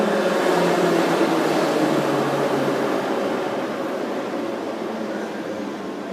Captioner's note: arrival of train at the station